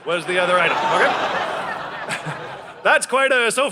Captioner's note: audience laughing